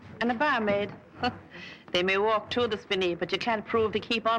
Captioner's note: scoffs